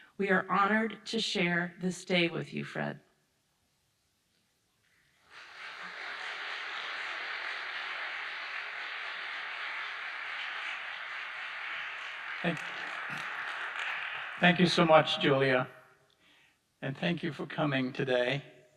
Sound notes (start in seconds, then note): 5.3 audience applauding